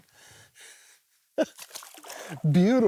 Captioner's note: laughs